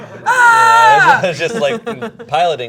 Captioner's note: shouting